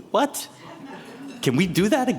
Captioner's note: attendees laughing